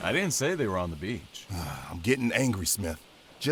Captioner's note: sigh